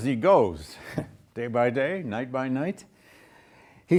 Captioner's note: laughs